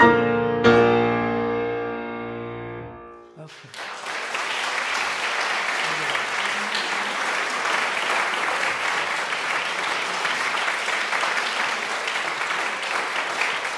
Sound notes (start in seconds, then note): 0.1 makes interpretive musical sounds; 4.1 audience applauds